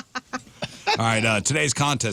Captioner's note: laughing